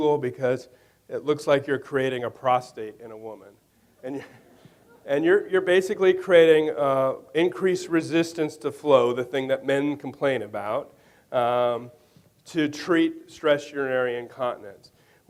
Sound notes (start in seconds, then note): 4.1 audience laughing